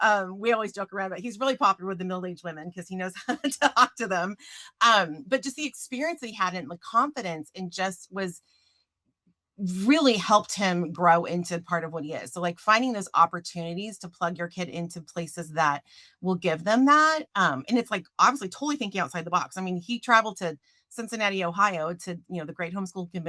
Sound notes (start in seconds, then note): 3.2 chuckles